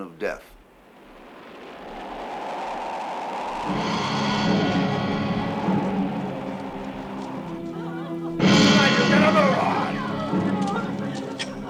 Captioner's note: tires Screeching